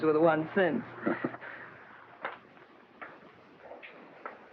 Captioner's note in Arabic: هانك يضحك